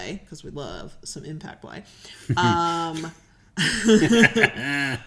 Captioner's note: laughing